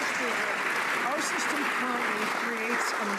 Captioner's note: some Applause